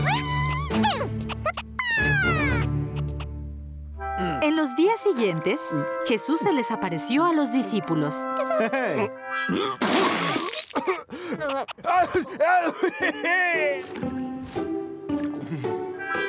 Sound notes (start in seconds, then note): 0.0 happy caterpillar noises; 9.4 choking; 11.1 laughing